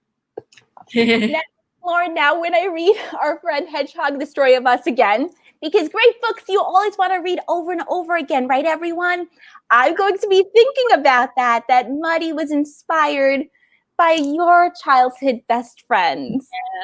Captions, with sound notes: (laughing) - Lauren now, when I read "Our Friend Hedgehog, The Story of Us" again, because great books you always wanna read over and over again, right everyone? I got to be thinking about that that Muddy was inspired by your childhood best friend.